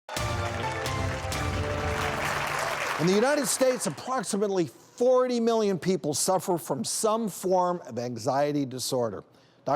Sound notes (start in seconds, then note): 0.0 audience applauds